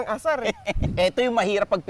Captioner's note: laughs